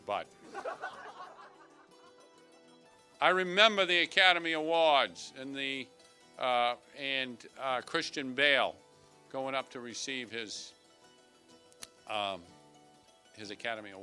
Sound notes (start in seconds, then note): 0.4 laughter